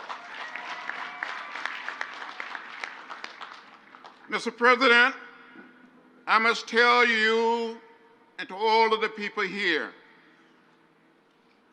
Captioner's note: crowd applauds